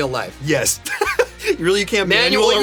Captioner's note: laughs